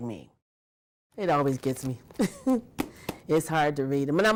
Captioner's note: laughing